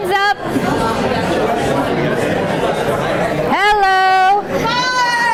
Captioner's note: class chattering